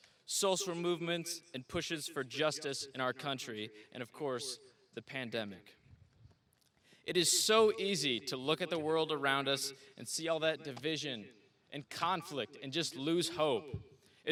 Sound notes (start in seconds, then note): none